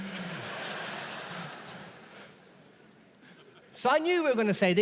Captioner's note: audience laughs